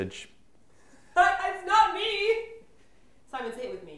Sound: laughs

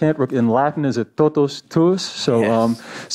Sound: speaks in Latin

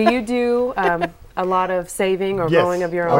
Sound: laughing

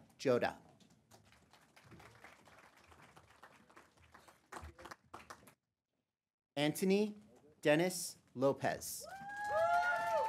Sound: applause; applause

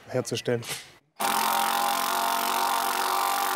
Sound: rattling

